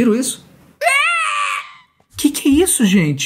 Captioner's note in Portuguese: imita o barulho